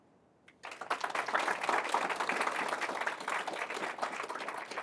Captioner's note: applause